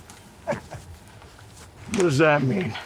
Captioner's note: Anderson chuckling